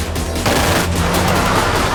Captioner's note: gun firing